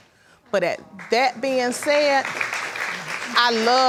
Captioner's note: audience applauding